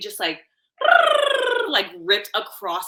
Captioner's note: purring sound